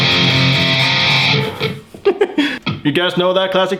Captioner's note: laughs